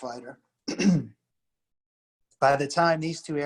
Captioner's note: clears throat